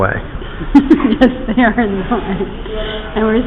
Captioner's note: laughter